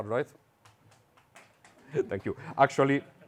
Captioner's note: audience clapping